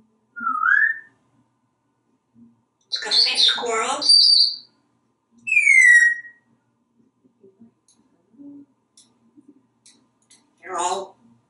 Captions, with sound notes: [whistling] Let´s go see squirrels? [whistling] You´re all ...